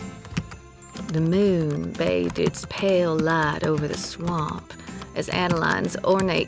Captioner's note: typing resumes